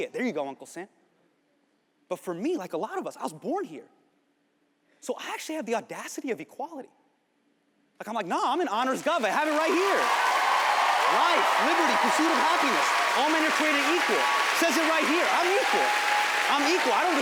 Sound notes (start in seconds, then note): 8.9 crowd cheering